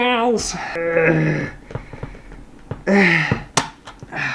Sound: grunting

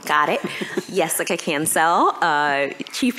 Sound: laughter

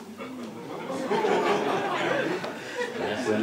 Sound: laughter

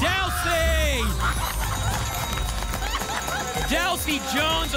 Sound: applause and cheering

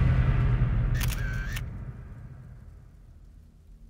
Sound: camera shutter sound

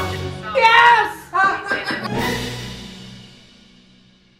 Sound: laughs

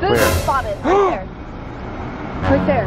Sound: gasps

